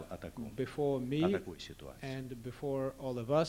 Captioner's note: non-english speech